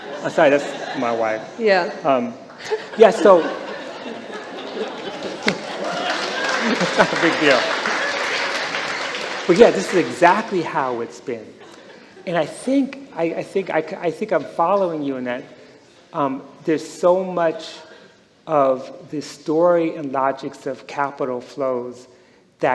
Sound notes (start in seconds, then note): 2.6 laughter; 4.8 applause